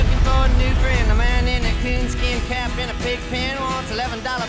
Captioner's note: explosion